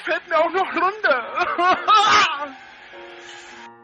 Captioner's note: more bawling